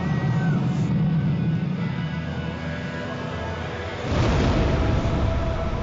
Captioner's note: scraping and thudding echo